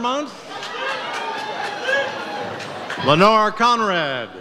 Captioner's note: audience cheers